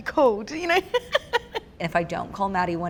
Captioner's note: laughter